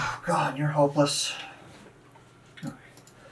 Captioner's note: sighs